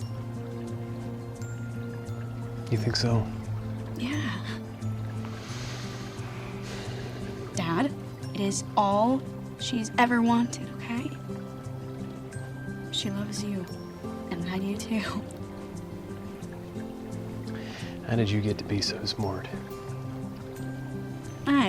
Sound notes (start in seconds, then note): 5.2 sighs